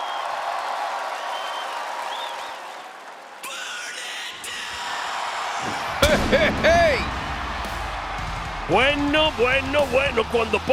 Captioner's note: applause